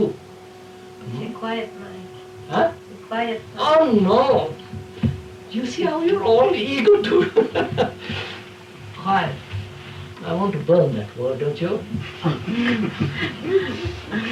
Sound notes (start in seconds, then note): 6.7 laughs